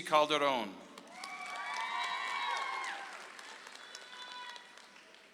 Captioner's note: audience applauds